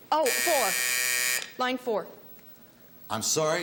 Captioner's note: buzzer